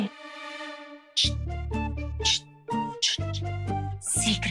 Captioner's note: imitates zipping